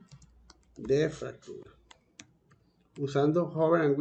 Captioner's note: in Spanish